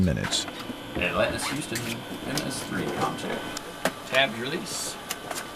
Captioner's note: astronaut speaking off-mic